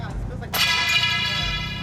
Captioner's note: pipe clatters